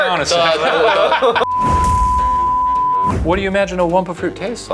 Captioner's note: laughs; tone beeping